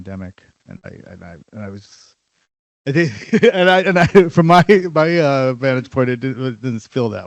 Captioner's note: laughs